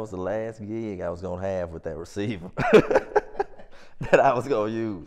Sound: laughs

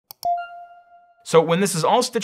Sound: beeping

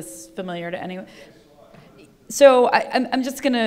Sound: faintly speaking

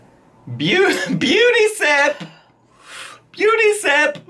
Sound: laughing

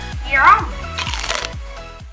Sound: crunch

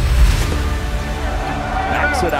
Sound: dramatic beat; crowd cheering

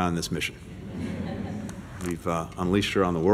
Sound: laughter

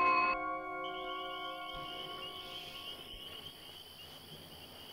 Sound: crickets chirping

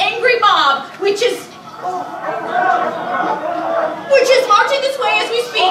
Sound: mob clamoring

